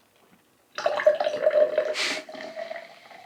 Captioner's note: drip drip